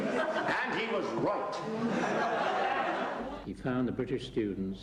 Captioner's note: audience laughs